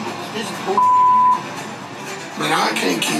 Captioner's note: beep